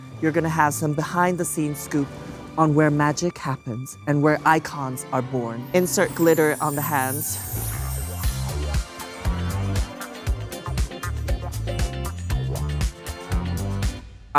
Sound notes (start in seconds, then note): 5.6 graphics tinkling; 8.4 upbeat music